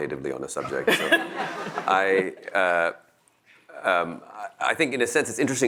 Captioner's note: audience laughs